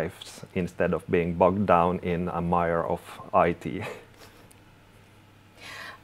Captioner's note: both chuckling